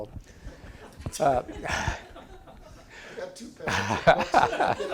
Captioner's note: audience laughing